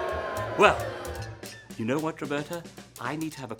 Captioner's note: crowd boos